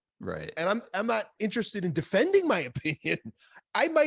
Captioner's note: laughs